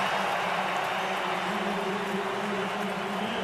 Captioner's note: crowd cheering